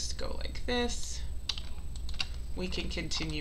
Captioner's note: keyboard clicking